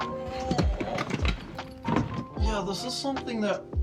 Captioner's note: grunting